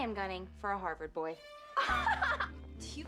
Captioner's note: laughi ng